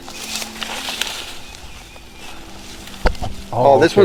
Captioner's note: leaves rustling